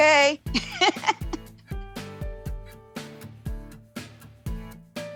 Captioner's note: laughs